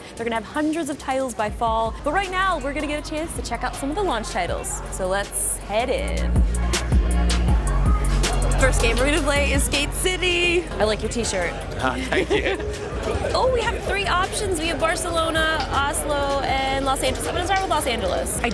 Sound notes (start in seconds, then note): 11.7 laughs